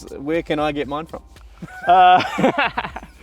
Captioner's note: laughs